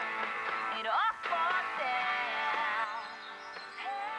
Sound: radio playing

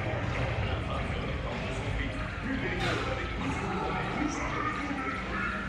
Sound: Zurg speaks French

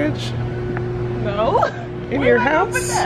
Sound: laughs

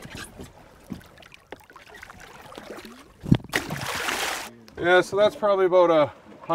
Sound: fish splashing

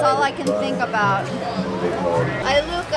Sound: laughing

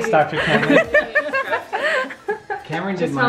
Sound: laughing

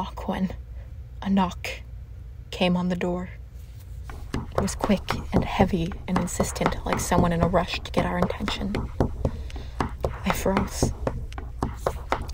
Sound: heavy, repeated knocking

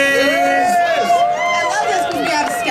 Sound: audience cheering

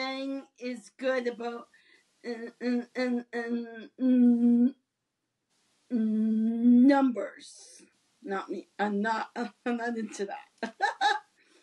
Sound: laughs

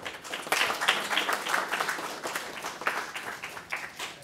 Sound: audience applauding

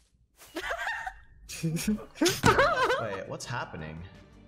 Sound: laughing

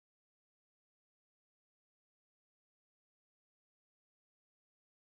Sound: car engine roaring

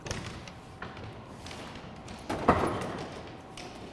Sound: door rattling

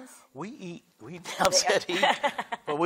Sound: laughs

